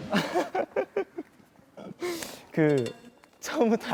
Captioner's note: he keeps laughing